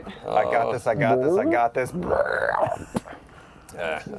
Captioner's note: fake belch